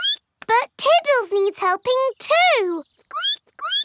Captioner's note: squeaks